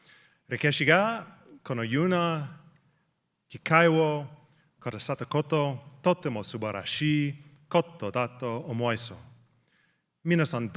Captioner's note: speaking japanese